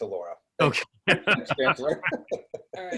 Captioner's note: laughter